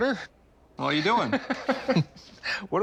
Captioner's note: laughs